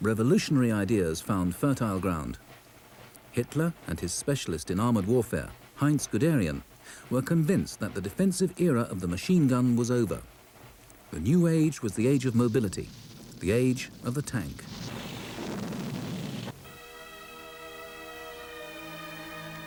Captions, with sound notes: revolutionary ideas found fertile ground. Hitler and his specialist in armed warfare, Heinz Guderian, were convinced that the defensive era of the machine gun was over. The new age was the age of mobility, the age of the tank. (shell booms) (tender music)